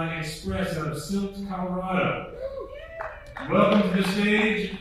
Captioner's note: attendees cheering